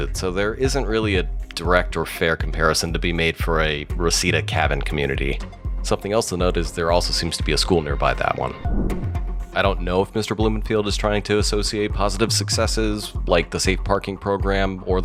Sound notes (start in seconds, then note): 8.5 air whooshes